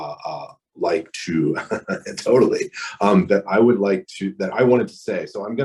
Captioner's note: laughs